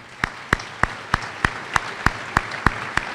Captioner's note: applause